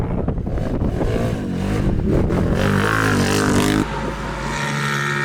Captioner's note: engine revving